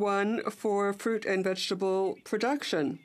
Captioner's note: speaking French